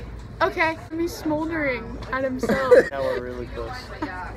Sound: laughter

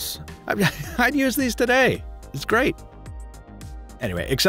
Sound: chuckling

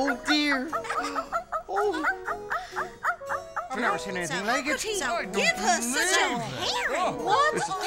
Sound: puppy barking; laughing

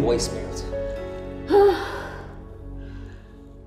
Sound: exhales

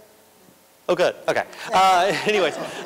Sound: laughter

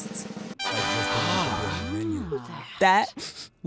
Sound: group wows

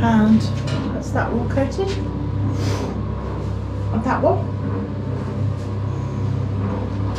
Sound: cement mixer turning

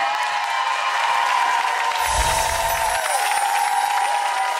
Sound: audience cheering

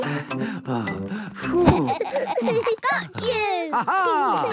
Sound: all laughing; panting

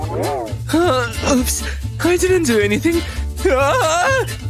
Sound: coughs; coughs

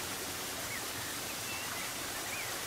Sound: birdsong

